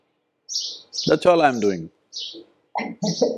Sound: laughs

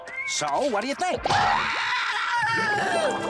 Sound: screaming

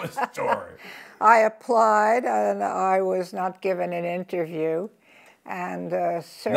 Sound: laughs

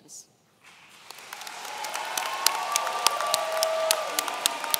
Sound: audience cheering

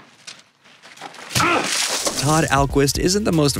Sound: grunt

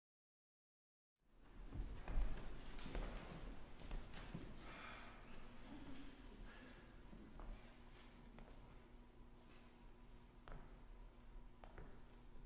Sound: footsteps, shuffling of papers

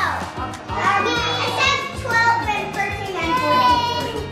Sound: children talking

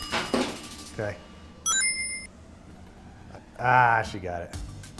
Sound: timer dings; bright chime sounds

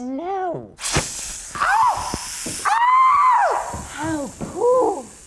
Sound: bad English Shreiking

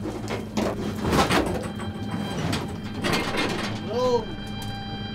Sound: dredge clacks

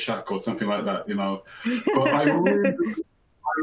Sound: chuckles

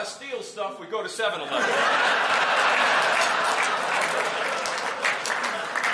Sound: laughter

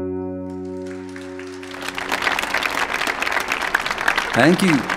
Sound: audience applauding

